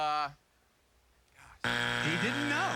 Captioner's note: buzzer